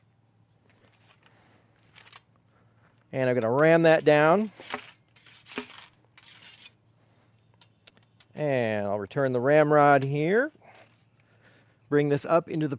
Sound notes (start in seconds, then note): 3.4 metal clinging